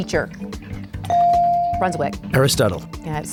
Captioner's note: bell dings